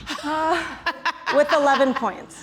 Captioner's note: laughter